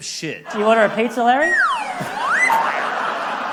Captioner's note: slide whistle plays